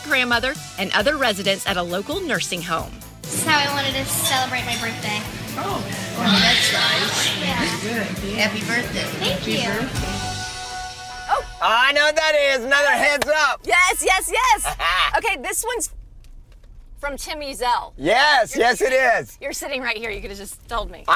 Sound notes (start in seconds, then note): 10.3 alarm buzzing